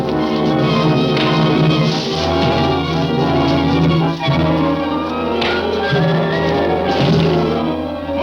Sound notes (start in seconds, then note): 1.2 punching sounds; 4.2 dramatic music